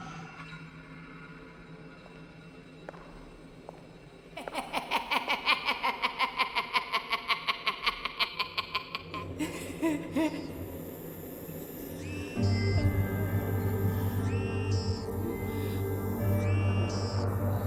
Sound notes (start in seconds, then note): 2.2 footsteps tapping; 4.4 Lori laughing maniacally; 12.4 soft dramatic music; 12.4 whirring